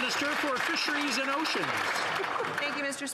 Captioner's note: some Applause